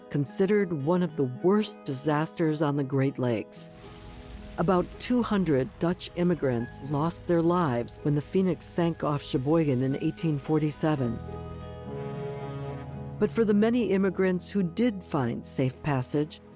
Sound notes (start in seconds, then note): 3.7 flames burning; 11.3 blowing ship horn